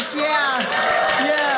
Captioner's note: audience cheering